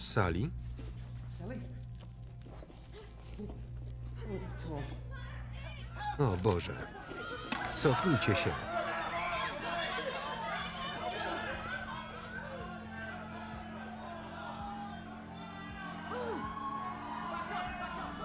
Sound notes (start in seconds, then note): 5.0 mob shouting again; 6.4 mob panic; 6.4 tear gas hissing; 8.4 screams